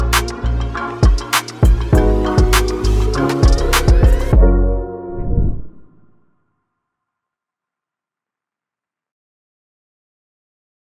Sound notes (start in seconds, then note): 4.5 upbeat electronic music fades; 5.1 logo whooshes